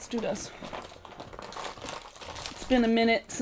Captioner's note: objects rustling